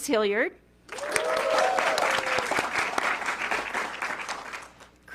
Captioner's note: audience clapping